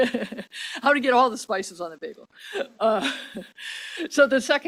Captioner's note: laughs